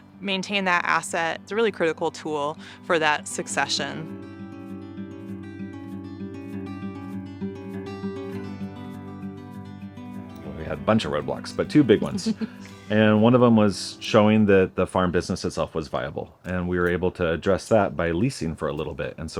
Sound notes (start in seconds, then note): 5.1 tender music break; 11.9 chuckles